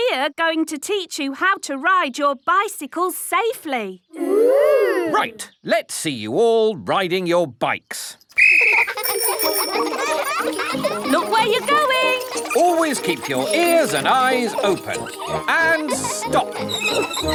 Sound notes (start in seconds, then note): 8.3 blows whistle; 9.5 giggling and ringing bells